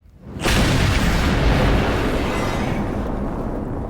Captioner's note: loud explosion